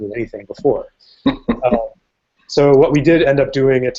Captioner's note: chuckles